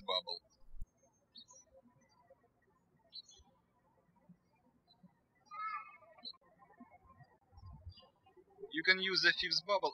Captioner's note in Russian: птички щебечут